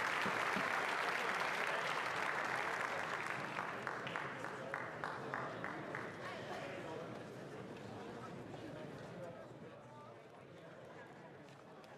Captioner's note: some Applause